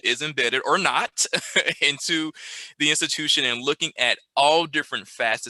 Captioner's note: chuckles